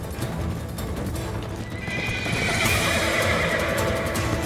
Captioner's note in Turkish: At kişniyor